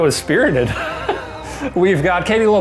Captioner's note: chuckles